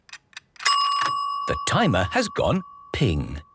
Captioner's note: dinging